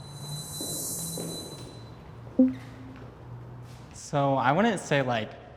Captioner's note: footsteps